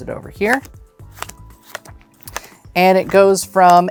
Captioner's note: cards slapping